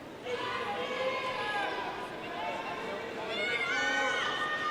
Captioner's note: audience faintly shouting